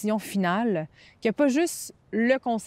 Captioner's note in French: none